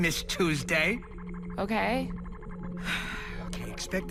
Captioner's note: sighs